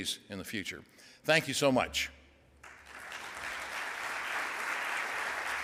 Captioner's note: audience applauds